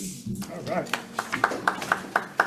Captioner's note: applauds